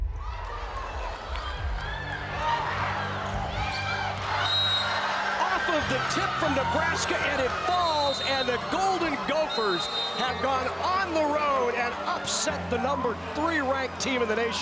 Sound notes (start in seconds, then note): 0.2 cheering; 4.3 whistle blows